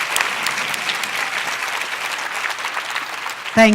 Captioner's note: applause